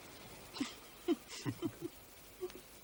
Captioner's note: both chuckle